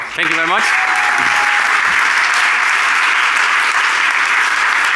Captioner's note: applause